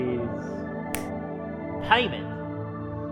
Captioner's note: snap